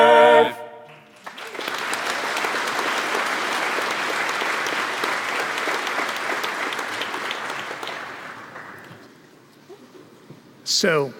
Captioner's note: applause